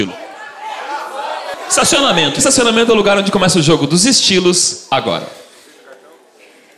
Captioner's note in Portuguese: plateia dá sugestões